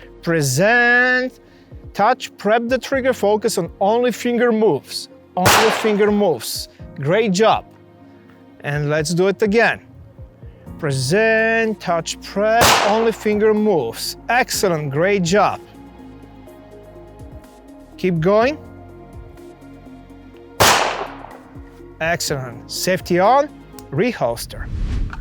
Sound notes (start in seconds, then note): 20.6 gunfire pops; 24.9 gentle music